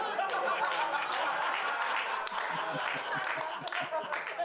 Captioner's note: audience laughing